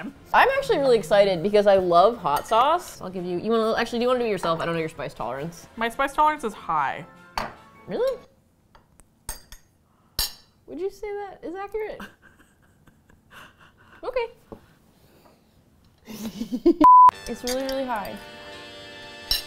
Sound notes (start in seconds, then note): 6.8 small voice, skeptically; 12.0 laughs quietly; 16.0 giggles